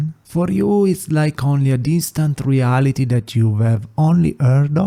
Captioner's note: none